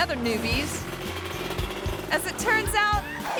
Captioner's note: motorbike revving